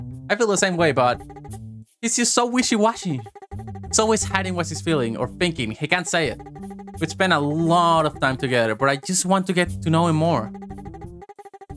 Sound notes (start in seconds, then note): none